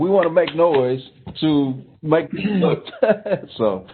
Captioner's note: clapping; laughing; clearing throat